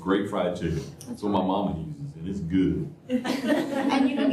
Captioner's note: laughter